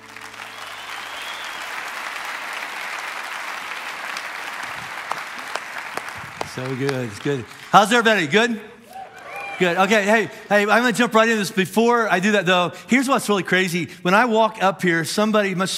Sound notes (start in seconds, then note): 8.7 congregation cheering